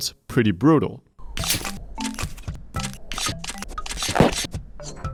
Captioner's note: game sound playing